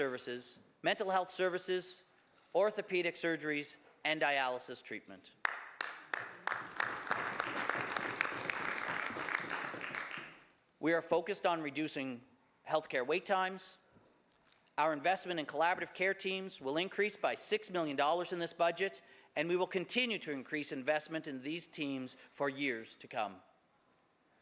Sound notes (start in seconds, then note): 9.3 some Applause